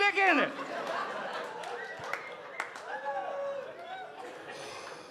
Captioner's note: audience laughing